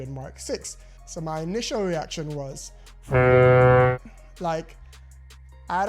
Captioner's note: truck horn